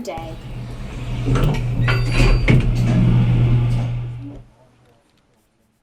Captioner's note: elevator doors shutting